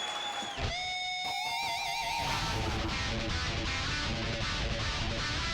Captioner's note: crowd cheering